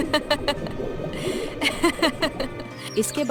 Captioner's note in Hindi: हंसी